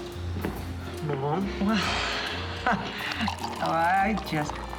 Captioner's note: laughs